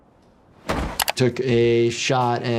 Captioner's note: player plods